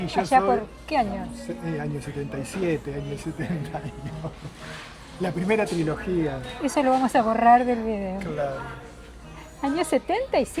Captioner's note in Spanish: risas